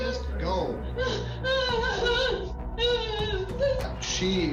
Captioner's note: sobbing